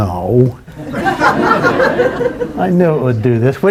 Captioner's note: laughter